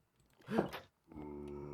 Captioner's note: gasp!